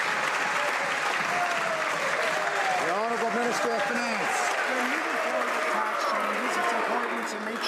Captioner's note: some Applause